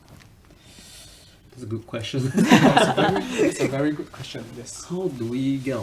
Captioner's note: laughs